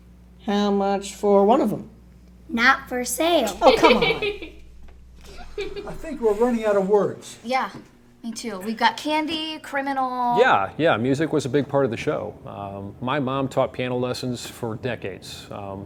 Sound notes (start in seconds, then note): 3.4 camera girl laughs